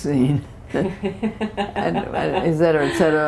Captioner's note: laughter